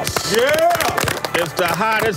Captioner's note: applause